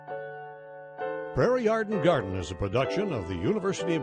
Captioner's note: voiceover